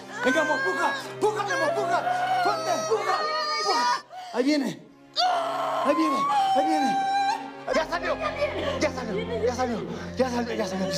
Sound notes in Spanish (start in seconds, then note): 5.2 Quejido